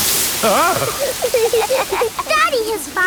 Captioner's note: laughing